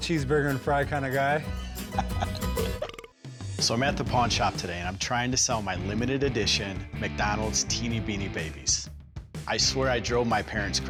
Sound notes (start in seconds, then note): 1.5 laughs; 2.6 burp sound